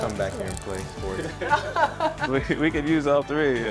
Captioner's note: laughs